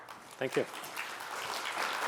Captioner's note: applause